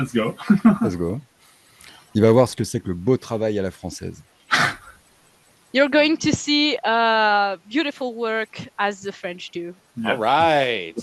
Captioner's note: translating from French